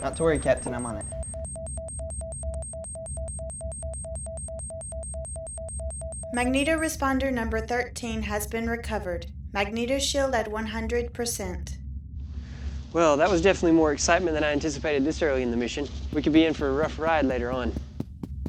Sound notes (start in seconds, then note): 2.3 warning beeps; 18.3 tapping